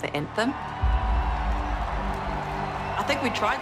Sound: crowd cheering

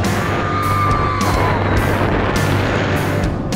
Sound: screaming

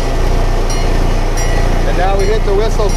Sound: train bell clangs

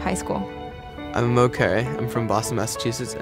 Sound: voiceover

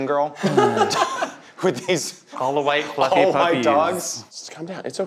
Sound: everyone laughing

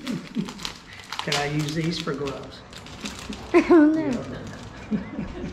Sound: laughing

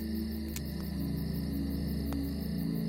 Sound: none

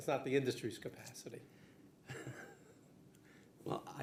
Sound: laughing

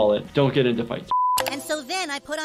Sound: background tonal beeping

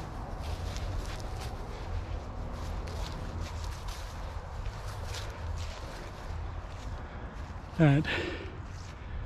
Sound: wind blowing

